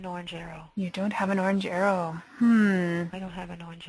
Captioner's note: voiceover